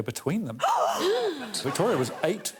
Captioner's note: women gasping